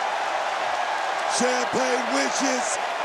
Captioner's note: audience cheering